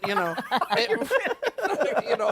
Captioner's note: laughter